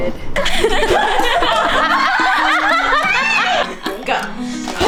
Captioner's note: laughing